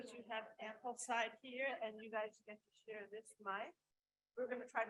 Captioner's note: faintly speaking